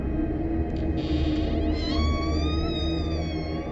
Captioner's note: door creaking